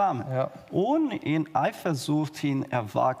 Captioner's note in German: none